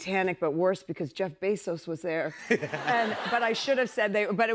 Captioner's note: laughter